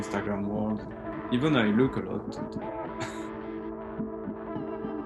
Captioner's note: laughs